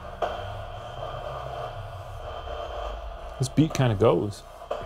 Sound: honey tone buzzing

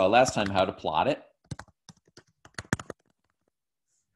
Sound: typing

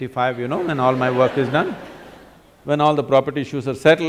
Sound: laughter; laughter

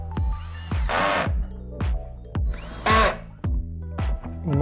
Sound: drilling sound

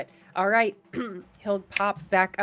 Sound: clears throat

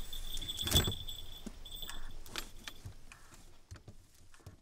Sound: door latches

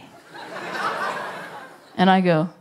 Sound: laughter

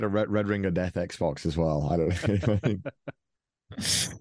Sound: laughing

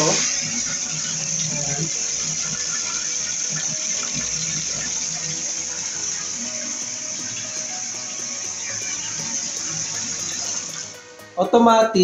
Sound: water splashing

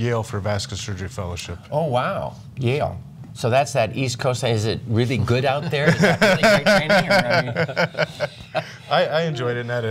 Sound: laughter

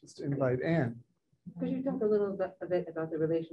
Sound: murmuring; woman's Voice

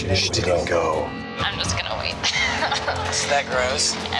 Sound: laughs

